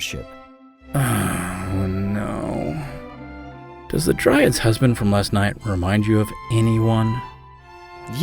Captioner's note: moan